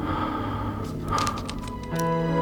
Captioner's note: lighter clicks